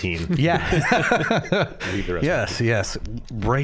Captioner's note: all laughing